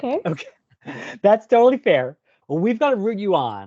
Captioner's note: chuckles